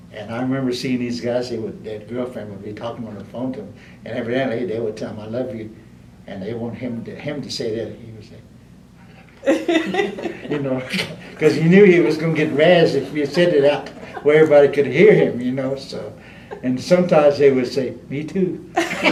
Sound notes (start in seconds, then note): 8.1 whispers; 9.4 laughter; 18.7 laughter